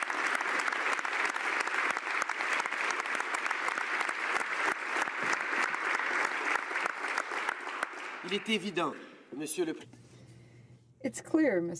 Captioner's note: applause